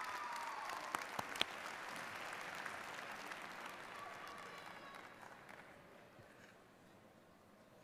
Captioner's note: applause